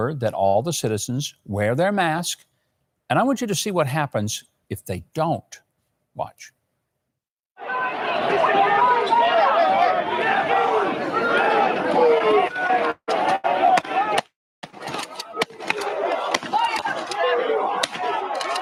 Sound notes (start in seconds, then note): 7.6 people yelling; 14.6 guns banging